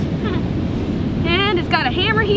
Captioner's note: short laugh